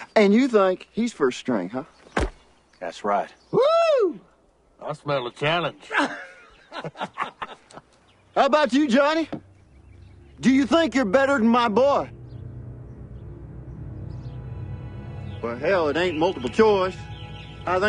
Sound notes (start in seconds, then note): 5.8 men laughs; 13.0 suspenseful music